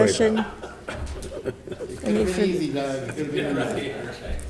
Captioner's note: members laughing